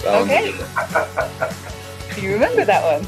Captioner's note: laughing